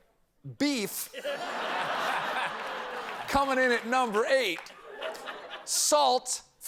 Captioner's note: laughter